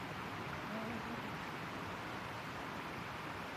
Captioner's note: sounds of creek